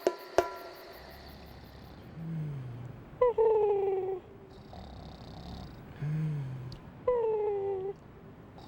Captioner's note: snoring and cooing